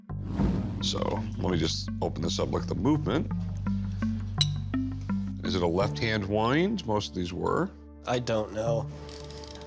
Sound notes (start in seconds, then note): 4.4 clinks; 9.0 creaking